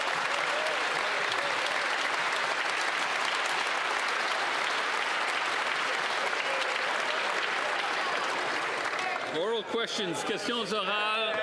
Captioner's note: some Applause